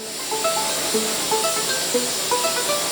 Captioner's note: hissing